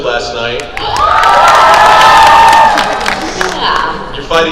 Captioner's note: crowd cheers